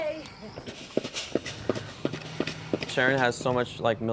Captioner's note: steam hissing